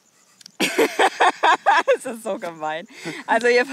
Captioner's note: laughs out loud